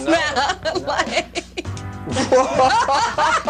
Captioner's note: laughing